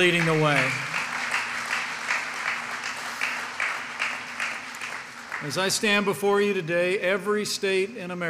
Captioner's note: applause